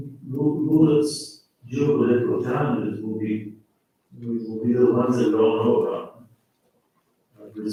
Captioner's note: faintly speaking